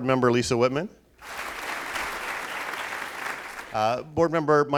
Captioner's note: applauding